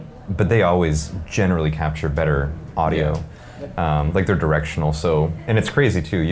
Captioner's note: none